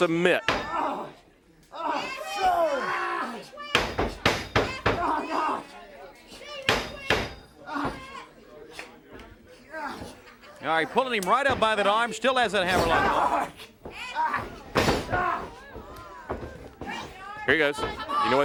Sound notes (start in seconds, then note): 1.4 crowd chatter